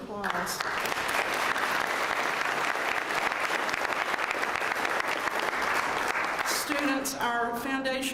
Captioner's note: applause